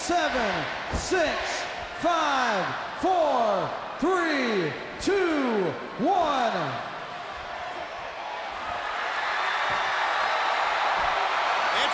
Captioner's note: crowd cheering